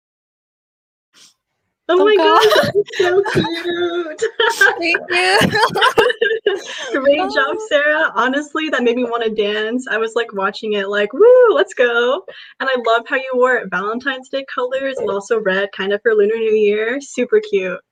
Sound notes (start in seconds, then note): 2.0 laughs; 5.5 laughs and waves